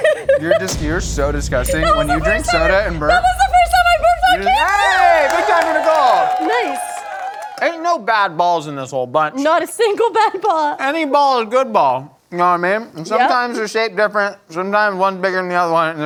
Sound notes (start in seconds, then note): 6.7 cheers